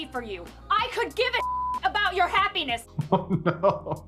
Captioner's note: beep